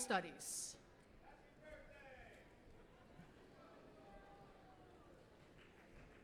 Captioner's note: applause